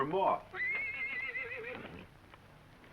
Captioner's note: horse neighs